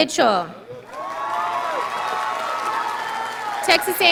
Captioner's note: audience applauding